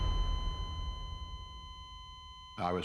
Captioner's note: flat-line tone